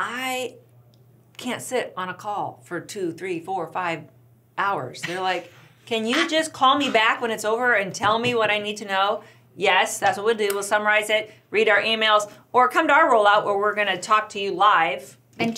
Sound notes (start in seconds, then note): 5.0 laughs